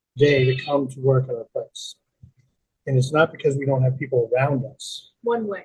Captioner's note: sheep bleating